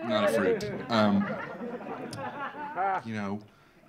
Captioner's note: audience laughing